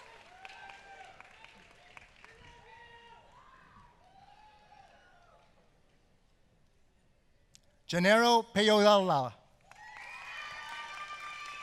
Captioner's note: applause